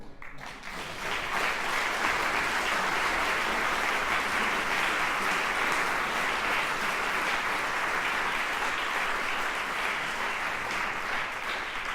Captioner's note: applause